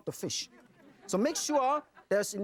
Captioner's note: audience laughing